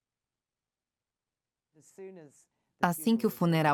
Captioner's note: voiceover